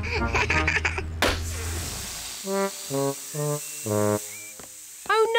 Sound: laughs; tire pops, hisses

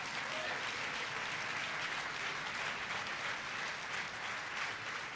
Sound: applause

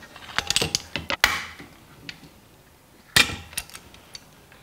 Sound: click

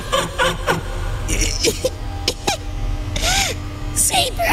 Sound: laughs; gasping for air

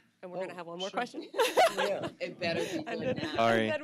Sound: laughs

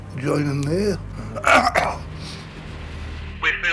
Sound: coughs

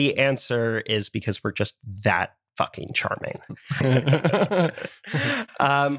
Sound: laugh

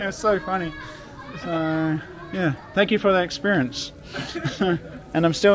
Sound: laughing

